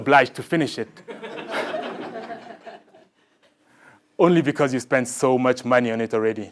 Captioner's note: laugh